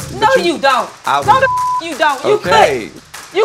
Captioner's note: beep